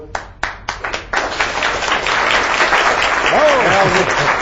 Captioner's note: audience clapping